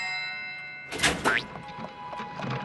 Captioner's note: door opens